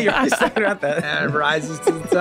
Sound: group chuckling

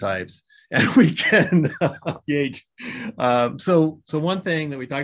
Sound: laughs

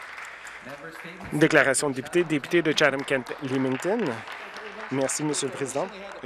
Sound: some Applause

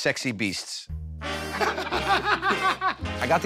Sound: laughter

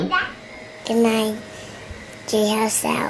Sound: vaccuum running

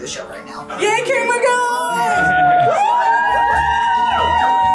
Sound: crowd cheering

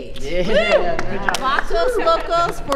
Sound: cheering

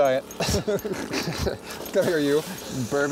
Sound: laughs

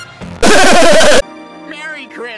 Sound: sarcastic laughter at easy joke

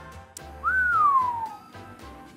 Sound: whistle

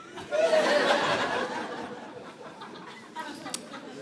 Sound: laughter

